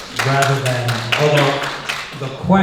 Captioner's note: audience Clapping